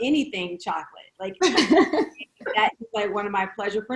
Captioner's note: laughing